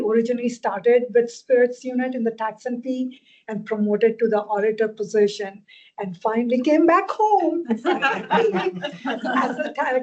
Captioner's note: laughter